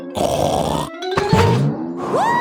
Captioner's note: snorts